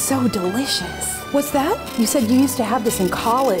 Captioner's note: static electronic pulsing